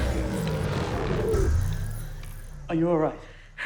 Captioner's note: machine oscillating